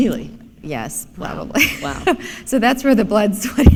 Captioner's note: chuckle